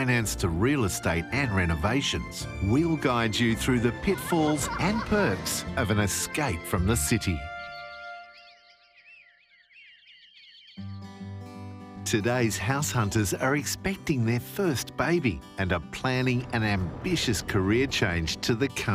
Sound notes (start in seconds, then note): 6.9 birds chirping peacefully